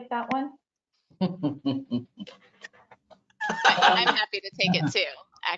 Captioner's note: laughter